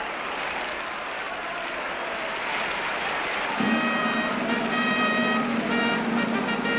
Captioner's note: applause and cheers